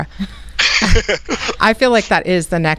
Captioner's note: laughs